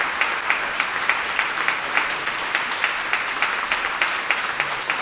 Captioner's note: audience applauding